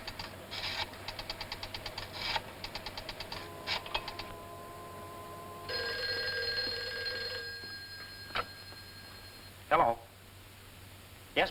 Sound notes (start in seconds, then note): 5.7 phone rings